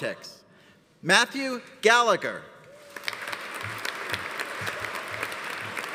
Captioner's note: audience applauding